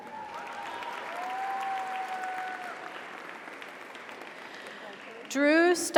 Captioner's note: audience cheers; audience applauds